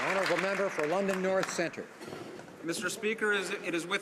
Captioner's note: applause